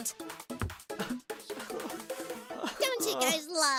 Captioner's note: sobbing